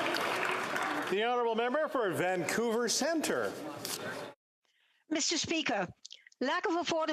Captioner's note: applause